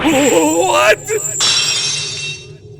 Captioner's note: lock shatters!